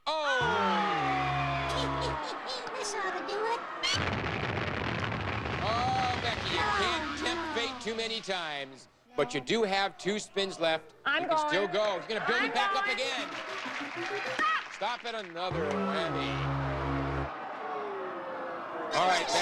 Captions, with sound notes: Stop! Aw! [audience aw] [explosion] Oh, Becky you can't tempt fate too many times. No. But you do have two spins left. I'm going. You can still go. She's gonna bring the again. Stop! Stop at another Whammy. [Audience aw]